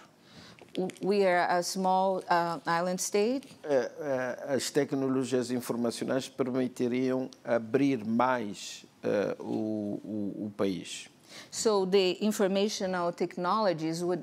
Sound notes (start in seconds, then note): 5.4 speaking portuguese